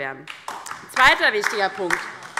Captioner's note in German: Beifall DIE LINKE